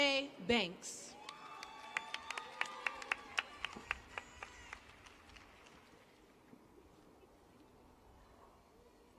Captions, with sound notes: HELP ME WELCOME THEM TO THE STAGE AND CONGRATULATE THEM ON THEIR SUCCESS. [ CHEERS AND APPLAUSE ]